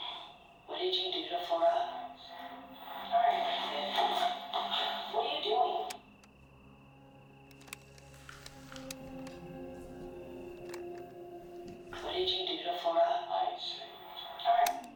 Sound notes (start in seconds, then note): 7.4 tape whirring; 11.0 recorder clicks